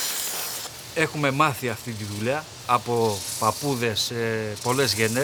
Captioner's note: man speaking in Greek